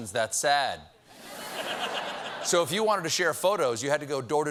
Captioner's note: audience reacts